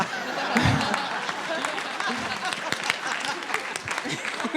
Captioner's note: audience applauding